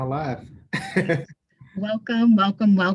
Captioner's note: laughs